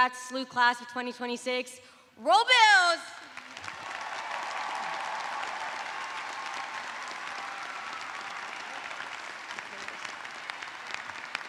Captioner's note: cheers and applause